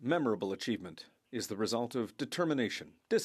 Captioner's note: speaking French